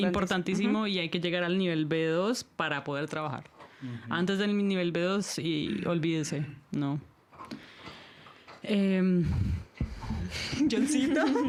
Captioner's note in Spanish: risas